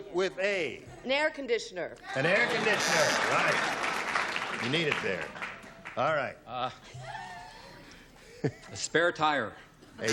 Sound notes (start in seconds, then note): 2.7 buzzer